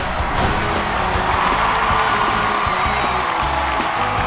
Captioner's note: students cheering